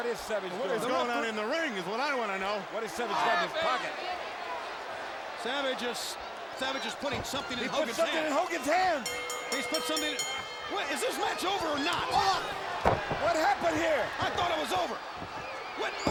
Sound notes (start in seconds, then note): 8.0 bell dinging